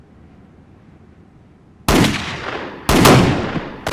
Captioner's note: gunfire